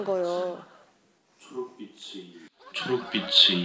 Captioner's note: Laughing